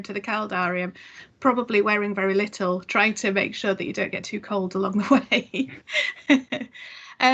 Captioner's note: laughs